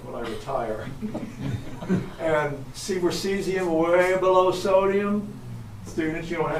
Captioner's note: everyone chuckles softly